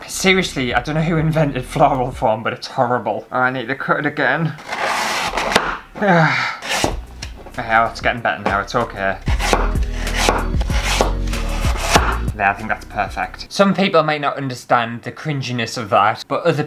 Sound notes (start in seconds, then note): 6.6 screech, CHOP!; 9.2 chop! chop! chop! chop!